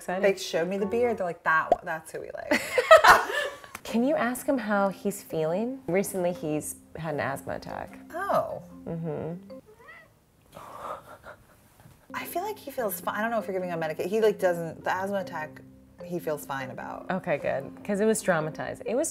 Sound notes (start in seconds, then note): 2.5 ladies laughing; 9.7 Bones meows